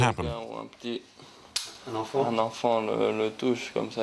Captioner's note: French spoken audio